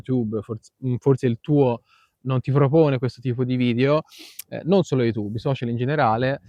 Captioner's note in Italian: sbuffare